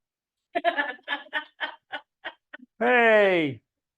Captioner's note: woman laughing